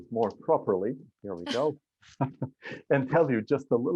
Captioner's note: laughter